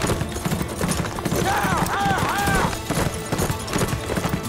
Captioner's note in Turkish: Bağırıyor